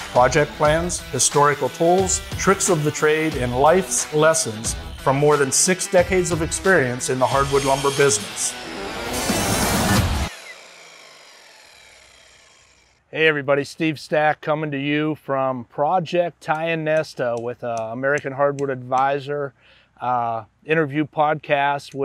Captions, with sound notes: project plans, historical tools, tricks of the trade, and life's lessons from more than six decades of experience in the hardwood lumber business. (saw whirring) (upbeat music) Hey, everybody. Steve Stack coming to you from Project Tionesta with "American Hardwood Advisor" interview podcast